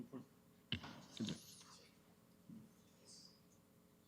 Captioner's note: whispering